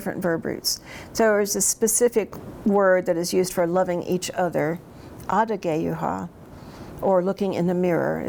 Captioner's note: speaks in Cherokee